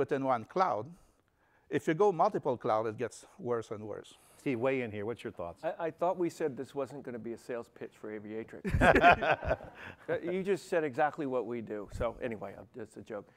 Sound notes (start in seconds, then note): 8.6 laughter